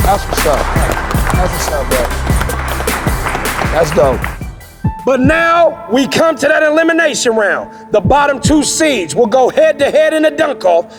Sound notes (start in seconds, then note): 3.0 all applauding; 3.0 upbeat music